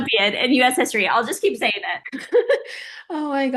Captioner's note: Oksana laughing